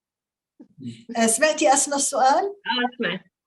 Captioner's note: speaking Arabic